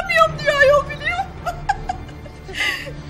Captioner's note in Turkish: gülme sesi̇